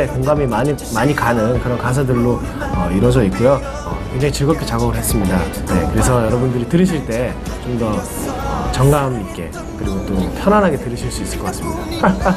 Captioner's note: laugh